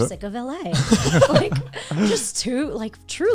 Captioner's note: guys laughing